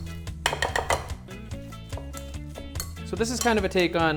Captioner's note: metal tapping on glass